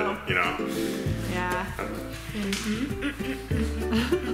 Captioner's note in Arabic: يضحك